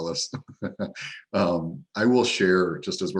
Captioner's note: laughing